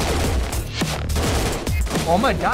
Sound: gunfire

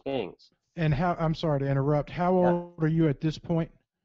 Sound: voiceover

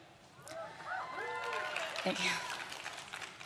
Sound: crowd claps and cheers

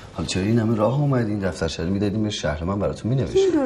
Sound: none

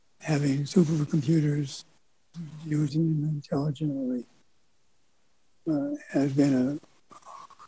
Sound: none

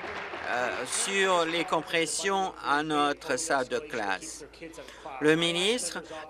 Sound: applause

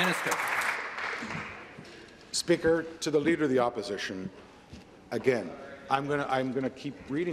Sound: applause

